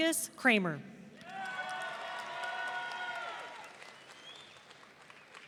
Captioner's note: audience cheering